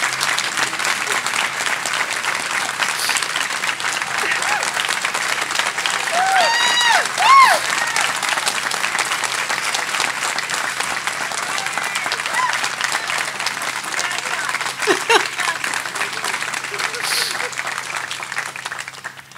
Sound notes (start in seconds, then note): 4.2 weeping; 13.9 laughing